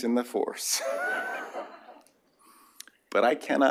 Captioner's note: laughter